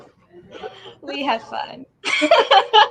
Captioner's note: laughs